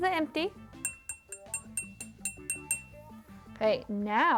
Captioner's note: jar tinking